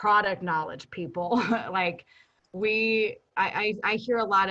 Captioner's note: chuckles